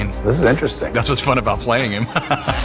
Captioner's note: laughing; laughs